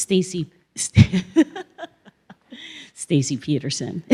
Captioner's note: laughs